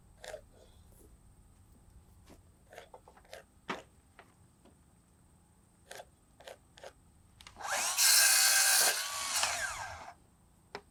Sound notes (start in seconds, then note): 0.7 pencil scratching wood; 7.5 saw buzzing